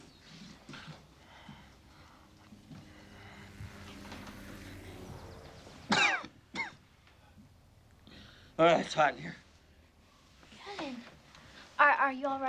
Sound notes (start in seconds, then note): 2.5 helicopter whirring; 5.8 coughing